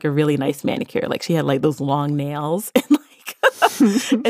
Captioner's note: laughs